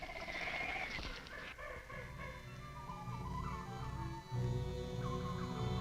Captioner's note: animals chittering; tense orchestral music